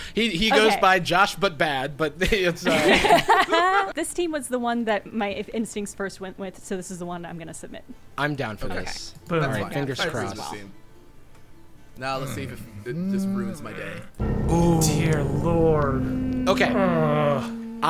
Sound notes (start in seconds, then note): 2.6 players laughing; 14.2 dramatic sound effect